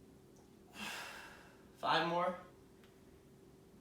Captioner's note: exhaling